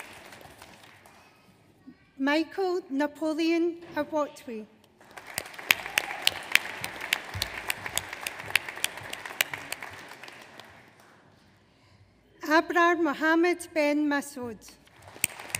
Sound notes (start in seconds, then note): 5.0 audience applauds